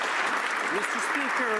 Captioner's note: some Applause